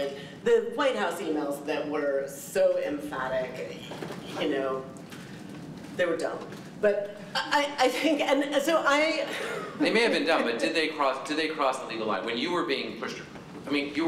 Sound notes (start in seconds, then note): 9.3 laughter